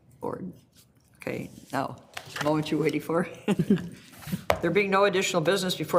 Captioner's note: laughs